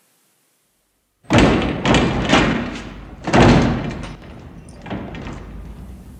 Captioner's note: doors opening